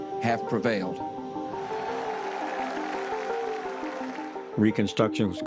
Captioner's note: crowd cheers